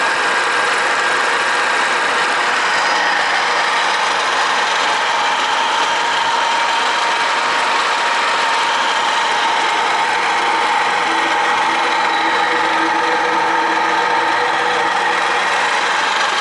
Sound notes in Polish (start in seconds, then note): 4.9 Aplauz